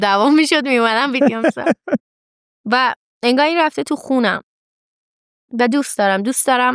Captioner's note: laughs